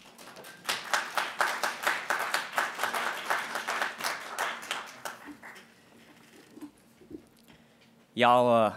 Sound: applasue

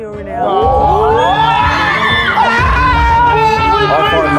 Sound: contestants jeering

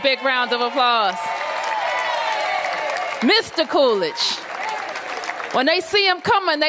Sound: applause

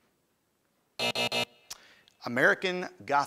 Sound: time buzzer

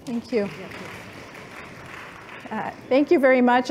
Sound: applause

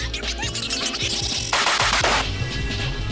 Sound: bangbangbang bang bang

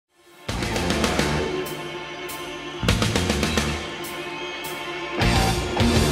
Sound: hard rock music playing; audience cheering

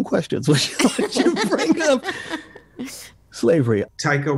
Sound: laughing

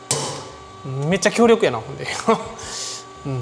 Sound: laughs

